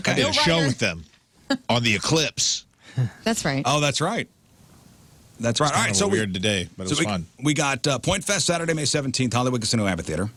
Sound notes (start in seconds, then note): none